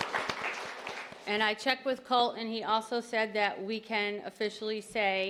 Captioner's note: applause